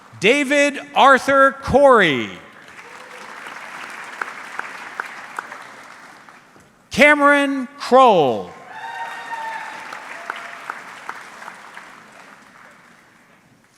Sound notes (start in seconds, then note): 0.0 audience clapping; 2.5 audience clapping; 8.6 audience cheering